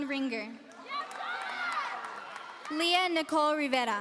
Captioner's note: audience cheering